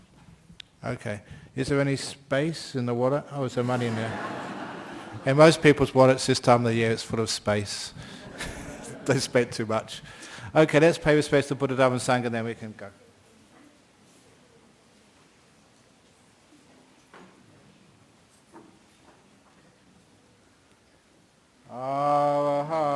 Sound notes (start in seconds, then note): 5.3 laughter